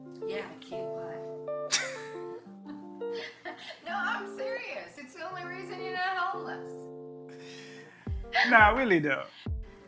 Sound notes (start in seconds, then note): 1.7 both laughing